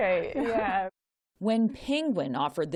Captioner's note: laughter